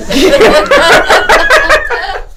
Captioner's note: laughing